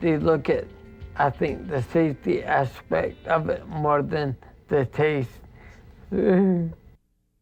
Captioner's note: chuckles